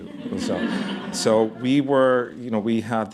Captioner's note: laughter